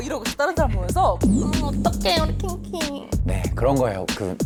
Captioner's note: in a sly voice